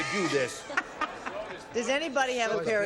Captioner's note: laughs